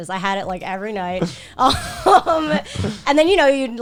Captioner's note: laughs